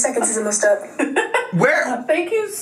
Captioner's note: laughing